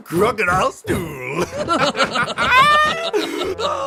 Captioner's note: laughter